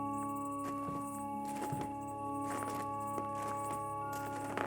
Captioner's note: footsteps crunching